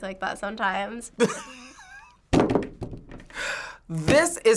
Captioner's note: laughs; hits table